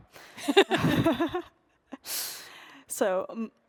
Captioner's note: laughing